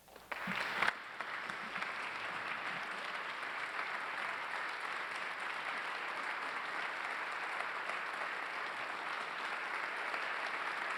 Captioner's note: applause